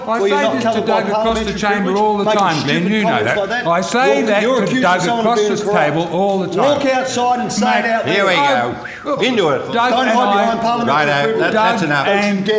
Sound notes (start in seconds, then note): 8.7 whew